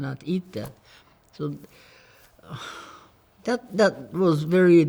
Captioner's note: sighs